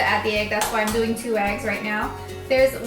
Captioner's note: tapping